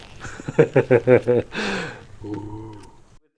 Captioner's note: laughter